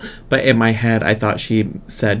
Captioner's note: none